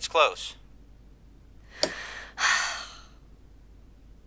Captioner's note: sighs